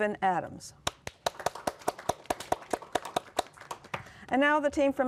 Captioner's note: applause